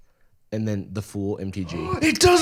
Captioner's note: gasps